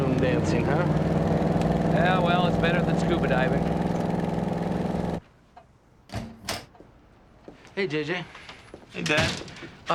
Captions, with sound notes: - Ballroom dancing, huh? - Yeah, well, it's better than scuba diving. (door opens) - Hey, JJ. - Hey, Dad.